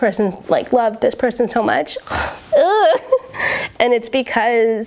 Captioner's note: groans